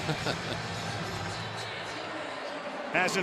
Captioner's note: laughs